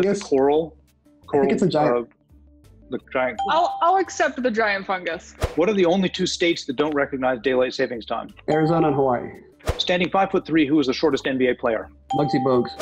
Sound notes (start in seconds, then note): 3.4 ding